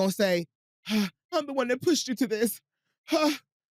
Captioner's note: sighs; sighs